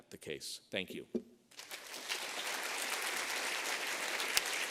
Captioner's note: applause